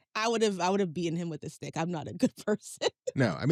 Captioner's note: laughs